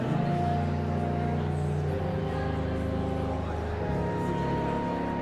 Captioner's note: audience chattering continues